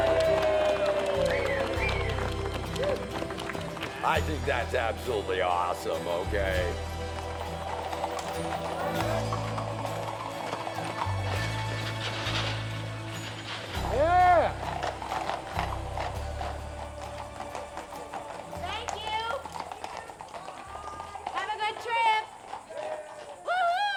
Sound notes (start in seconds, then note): 4.0 cheers and applause